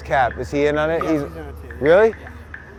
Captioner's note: male Voice